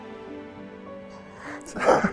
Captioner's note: sniffles; chuckles